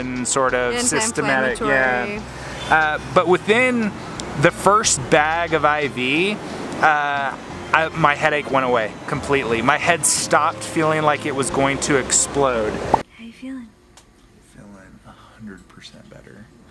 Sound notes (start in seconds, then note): 12.8 bubble popping